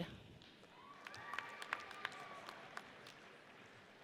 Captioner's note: audience cheers